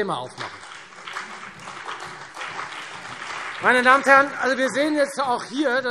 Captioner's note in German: Beifall Freie Demokraten, CDU, BÜNDNIS 90/DIE GRÜNEN und SPD